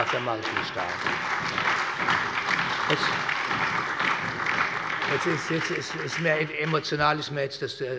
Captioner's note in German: Allgemeiner Beifall